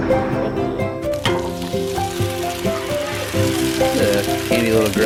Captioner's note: grill sizzling